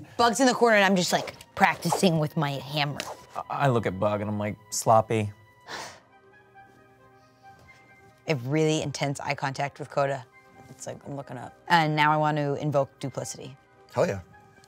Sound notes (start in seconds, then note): 5.7 scoffs